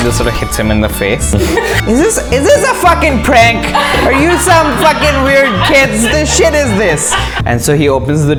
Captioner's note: laughter